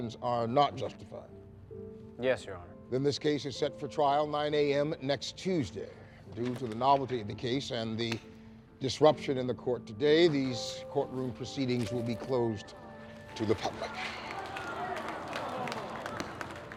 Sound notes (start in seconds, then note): 13.6 crowd mutters dismay